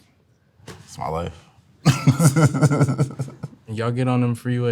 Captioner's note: laughs